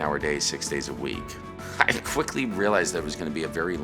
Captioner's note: chuckles